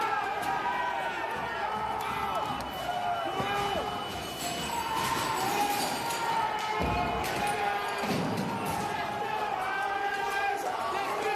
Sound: yelling

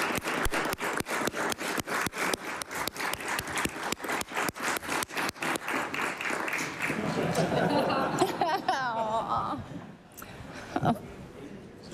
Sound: applause

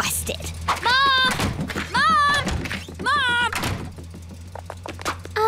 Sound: doors opening and closing

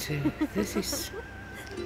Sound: friend laughing

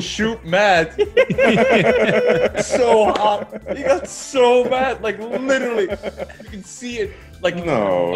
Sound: laugh

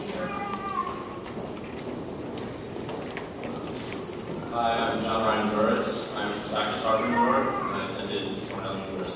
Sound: background noises and talking

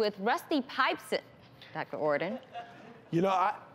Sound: laughter

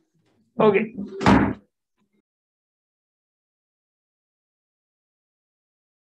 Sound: gavel bangs

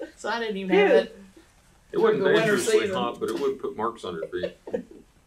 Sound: laughter

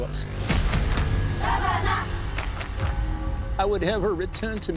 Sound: crowd chanting

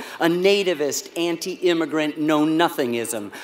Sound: none

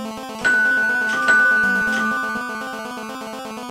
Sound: bell

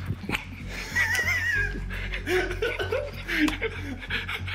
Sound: Josh laughs

